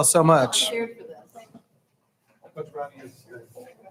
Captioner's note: people chattering